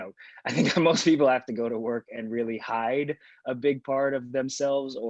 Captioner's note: laughs